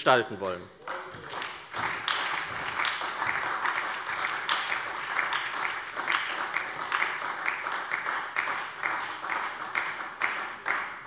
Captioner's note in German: Beifall bei der SPD